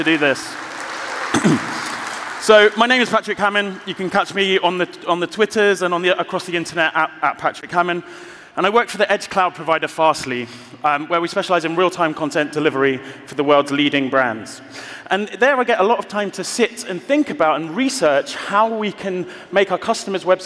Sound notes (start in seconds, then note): 1.9 applause